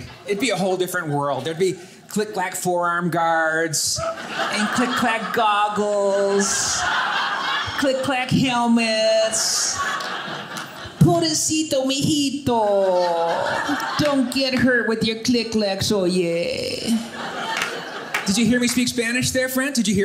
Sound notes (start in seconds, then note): 9.6 audience laughing; 11.0 speaking Spanish; 16.8 audience laughing